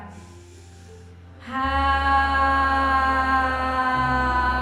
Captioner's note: all sighing